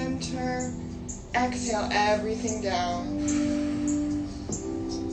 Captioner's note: exhales